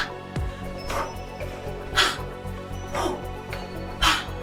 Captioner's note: deep breathing